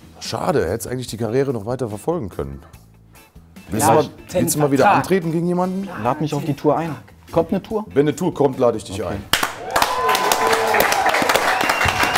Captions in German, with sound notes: Schade. Du hättest die Karriere noch weiter verfolgen können. Willst du mal wieder antreten gegen jemanden? Lad mich auf die Tour ein. Kommt eine Tour? Wenn eine kommt, lad ich dich ein. (Jubel, Applaus)